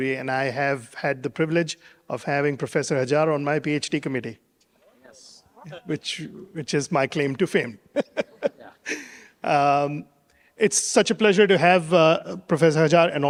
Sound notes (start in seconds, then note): 7.9 laughs